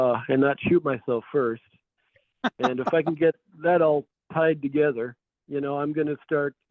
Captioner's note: laughs